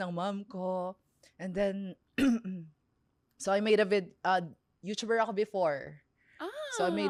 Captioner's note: clears throat